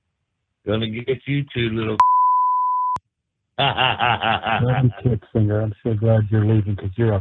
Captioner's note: laugh